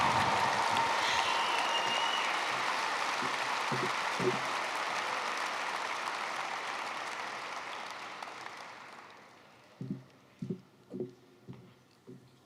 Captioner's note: applause